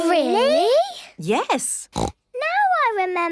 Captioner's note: snorts